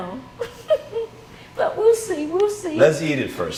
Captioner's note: laughing